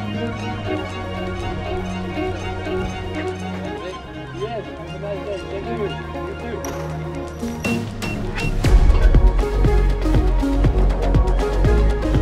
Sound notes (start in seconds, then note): 4.1 distant chatter; 7.7 keypad beeps; 9.4 lively music